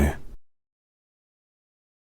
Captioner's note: silence